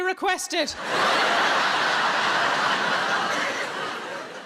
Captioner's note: audience laughs